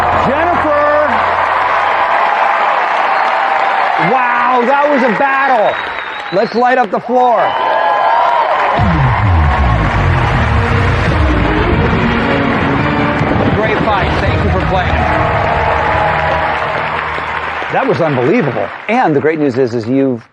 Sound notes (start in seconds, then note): 11.3 dramatic sound effects